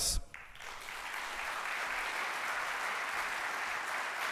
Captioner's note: applauding